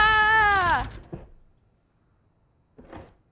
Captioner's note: yelling weakly; rattling stops